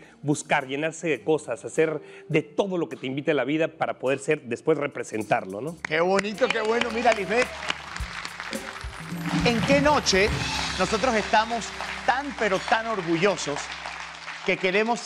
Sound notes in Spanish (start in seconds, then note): 7.6 Aplausos